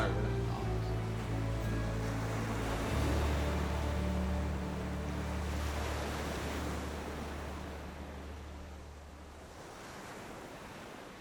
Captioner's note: sound of waves rolling